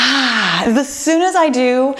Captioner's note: exhales